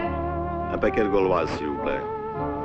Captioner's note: French spoken audio